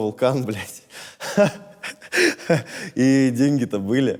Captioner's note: laughs